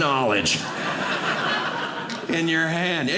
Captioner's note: audience laughing